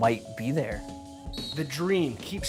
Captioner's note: whistle